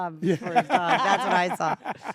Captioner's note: laugh